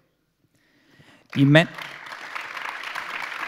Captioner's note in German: Applaus